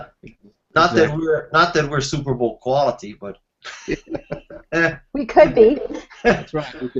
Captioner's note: laughs